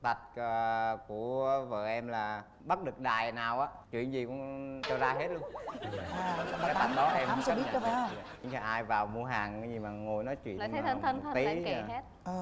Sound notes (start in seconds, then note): 5.5 laughing